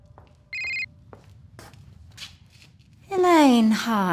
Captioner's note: phones rings